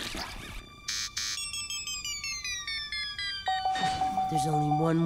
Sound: beeping

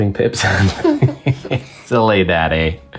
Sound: both giggle

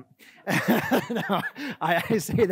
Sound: laughs

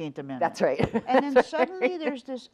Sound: laughs

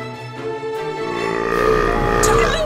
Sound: belching

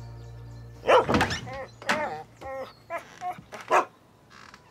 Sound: barking, whining

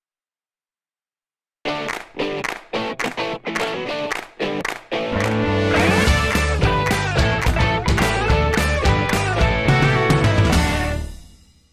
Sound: claps

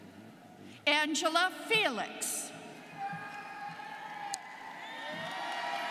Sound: students cheering

